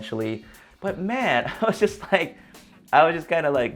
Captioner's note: chuckles